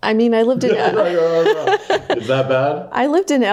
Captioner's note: laughs